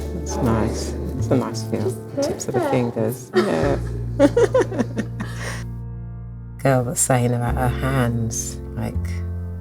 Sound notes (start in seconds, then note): 4.1 laugh